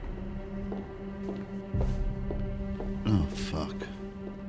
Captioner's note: footsteps clicking